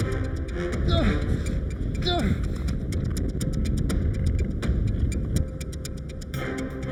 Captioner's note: ground rumbling; Brian grunting